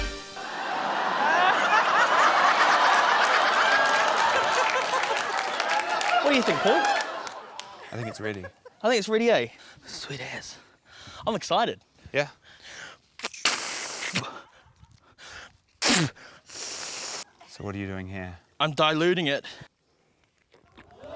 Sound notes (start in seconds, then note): 0.6 laughter; 2.2 applause; 13.2 blows; 20.9 audience exclaims